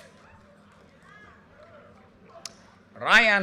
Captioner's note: audience cheers and applause